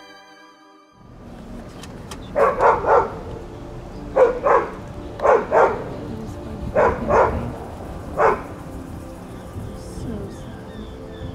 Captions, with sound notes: [Barks] They're so sad.